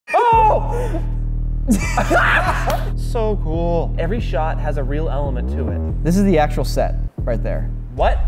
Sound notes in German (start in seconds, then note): 1.7 Lachen